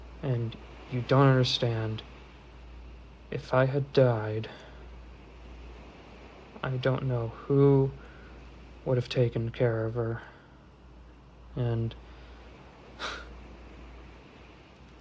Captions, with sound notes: And you don't understand. If I had died, I don't know who would've taken care of her. And, (Elias sighs)